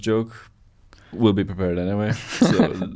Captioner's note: laughs